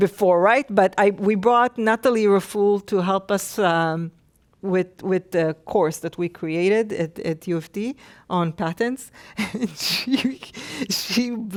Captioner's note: laughs